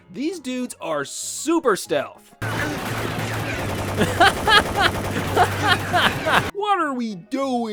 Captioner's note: laughter